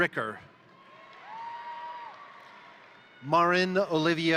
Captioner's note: crowd cheering; crowd applauding